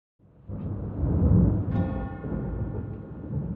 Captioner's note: thunder; bell Tolls